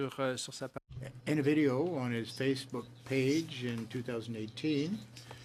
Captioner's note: speaking French